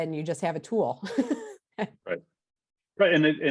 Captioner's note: chuckles